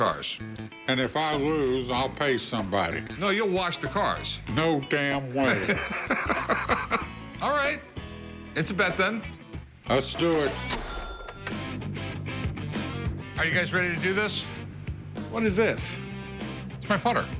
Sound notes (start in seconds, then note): 5.4 laughs